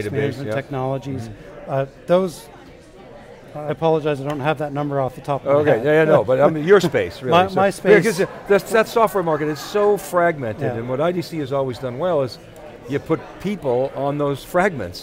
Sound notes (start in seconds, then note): 5.7 laughing